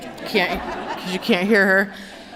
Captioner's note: laughter